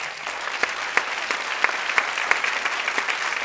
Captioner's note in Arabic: تصفيق